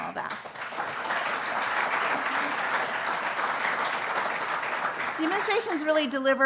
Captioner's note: applause